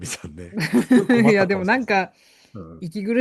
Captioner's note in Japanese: 笑い